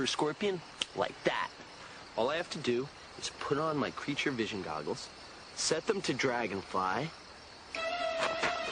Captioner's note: snaps fingers